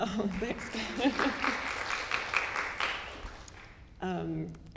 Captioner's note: audience applauding